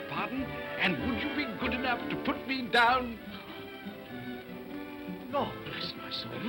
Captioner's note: whispers